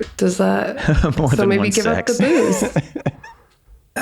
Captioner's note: chuckles